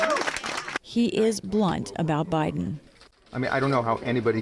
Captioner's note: cheering and applause